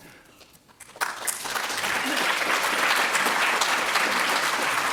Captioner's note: applause